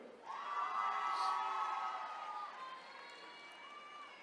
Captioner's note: attendees cheering